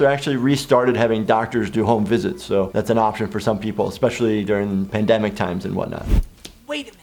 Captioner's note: none